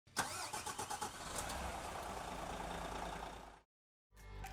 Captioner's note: engine starting